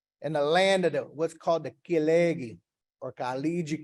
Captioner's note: speaking in foreign language